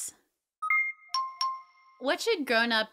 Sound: beeping

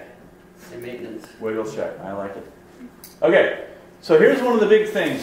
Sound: voiceover

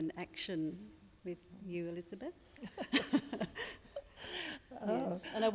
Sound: laughs

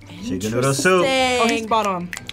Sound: gasping; snapping

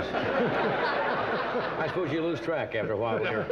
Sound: audience laughing

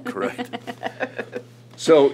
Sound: laughter

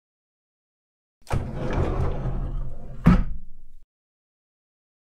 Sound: sound of door

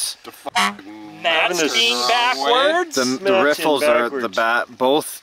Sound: car horn honks

